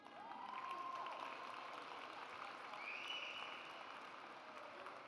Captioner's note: audience applauds